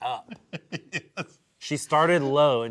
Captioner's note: laughs